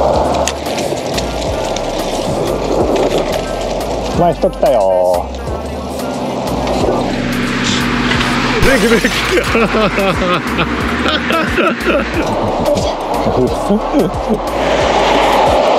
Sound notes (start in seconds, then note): 8.7 laugh